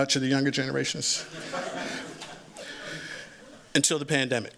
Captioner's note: laughter